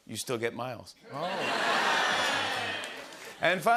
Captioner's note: laughter